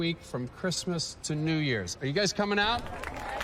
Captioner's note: cheering